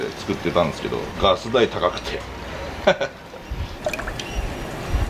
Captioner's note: laughter